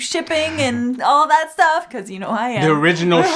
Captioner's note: laughs